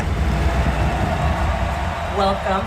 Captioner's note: crowd cheeering